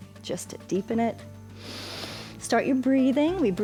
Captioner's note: inhales